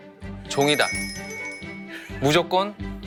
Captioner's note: ding ding